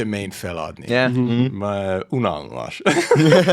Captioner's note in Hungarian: idegen nyelven beszélve